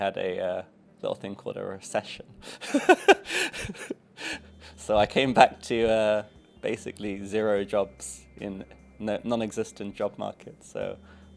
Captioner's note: laughs